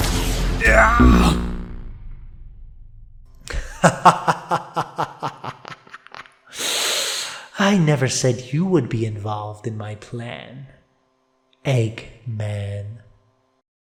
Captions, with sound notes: *Eggman shouts his final shout* *Robotnik laughs* I never said you would be involved in my plan... Eggman…